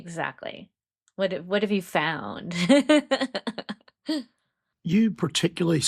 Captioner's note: laughs